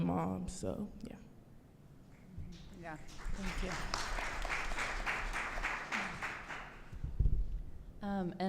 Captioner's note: applause